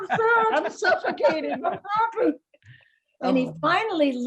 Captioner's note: laughing